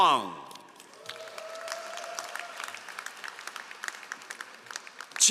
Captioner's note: all applauding